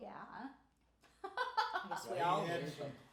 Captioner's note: laughing